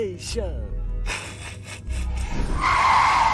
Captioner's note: snickers